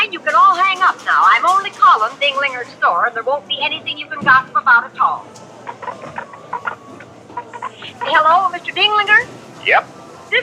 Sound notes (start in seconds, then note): 5.2 receiver clunking